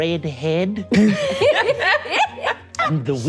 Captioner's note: all laughing